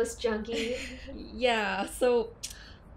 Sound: giggles

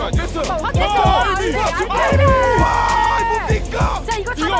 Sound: casters cheering

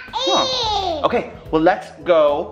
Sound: vocalizing

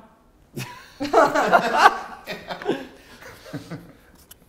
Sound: laughter

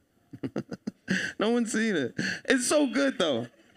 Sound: laughing

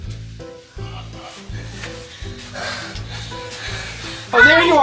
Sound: breathing heavily

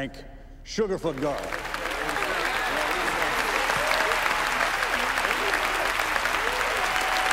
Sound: crowd applauding; crowd cheering

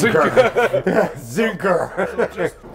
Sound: laughing

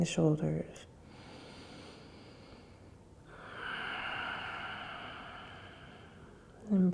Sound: breathing

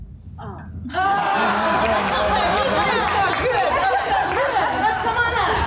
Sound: laughter

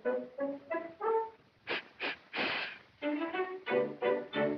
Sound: sniffs

